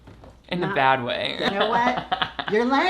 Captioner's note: laughs